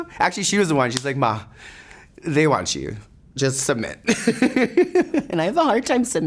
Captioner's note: laughs